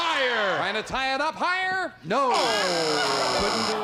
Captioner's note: buzzer